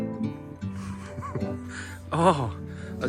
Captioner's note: laughs